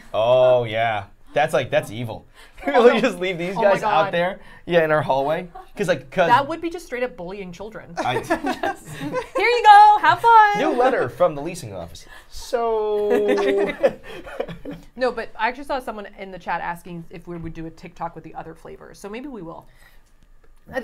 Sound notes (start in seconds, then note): 2.7 laughing; 8.0 all laughing; 12.8 all laughing